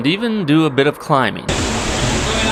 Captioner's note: water rushing